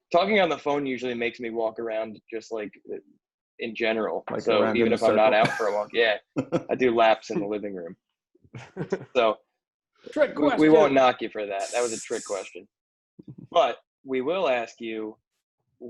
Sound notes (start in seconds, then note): 5.1 laughs; 8.5 collective laughter; 12.3 momentary hissing laughter